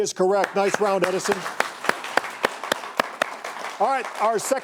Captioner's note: audience applauding